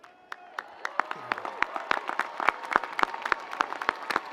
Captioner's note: audience applauds